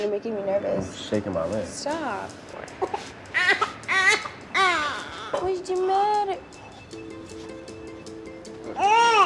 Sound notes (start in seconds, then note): 3.3 cries; 7.3 soft music